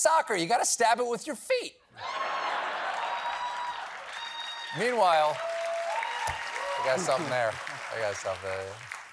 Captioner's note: laughter